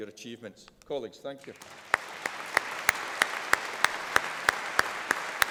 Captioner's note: applause